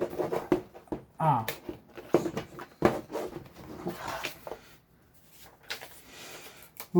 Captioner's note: box opening sound